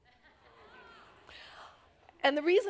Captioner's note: audience reacts